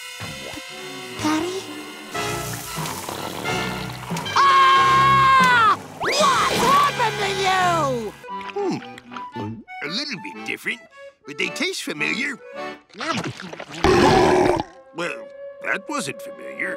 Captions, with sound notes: P-Patty? [screams] What's happened to you?! Hmm... A little bit different, but they taste familiar. [belching] Well, that wasn't familiar.